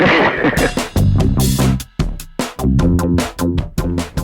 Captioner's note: laughs